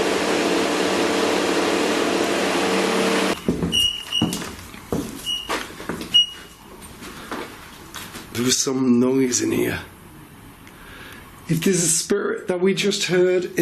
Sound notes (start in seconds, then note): 3.5 device beeping